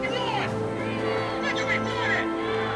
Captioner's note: crowd